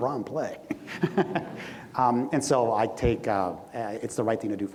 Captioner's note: everyone laughs